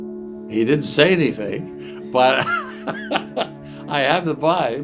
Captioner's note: laughs